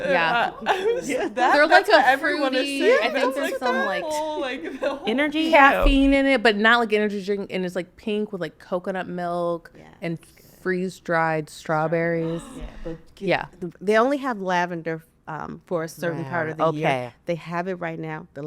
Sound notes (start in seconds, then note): 13.0 gasps